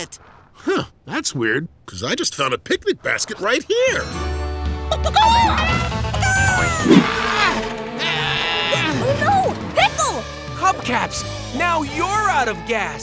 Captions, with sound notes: Huh, that's weird because I just found a picnic basket right here. [clucking] [grunting] Oh no, Pickle! Hubcaps, now you're out of gas!